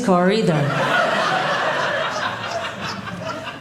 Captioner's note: audience laughing